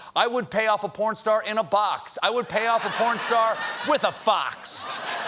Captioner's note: laughter